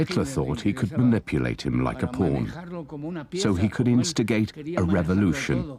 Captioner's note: speaking foreign language